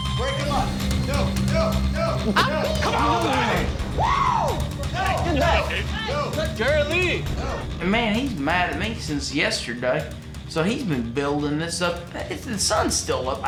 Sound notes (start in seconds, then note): 4.6 shouting